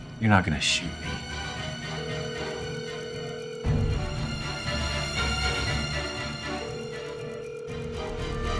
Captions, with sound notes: - You're not gonna shoot me. (phone rings) (dramatic tense music)